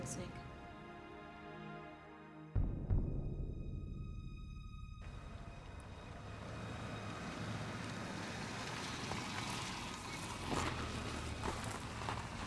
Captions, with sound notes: - Thanks, Nick. (dark brooding music) (car approaching)